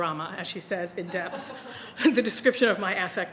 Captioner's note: audience laughing